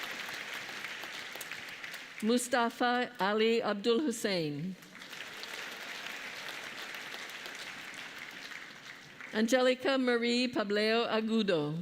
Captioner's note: applause